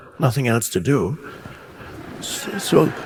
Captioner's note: audience laughing